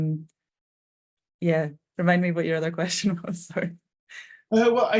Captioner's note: chuckling